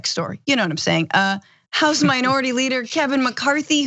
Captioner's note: laugh